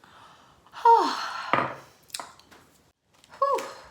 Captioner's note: sighs